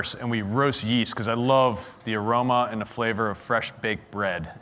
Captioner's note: none